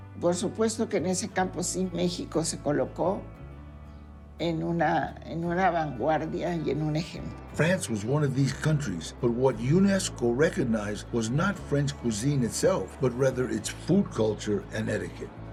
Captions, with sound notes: Of course, Mexico has positioned itself at the forefront of this field and as an example. [in English] France was one of these countries, but what UNESCO recognized was not French cuisine itself, but rather its food culture and etiquette.